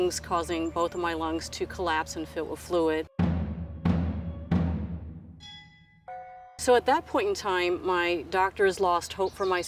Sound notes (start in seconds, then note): 3.1 tense drumming music; 5.4 bells clanging